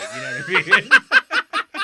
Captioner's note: laughing